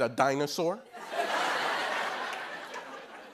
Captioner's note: laughter